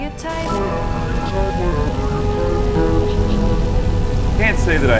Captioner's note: haunting echoes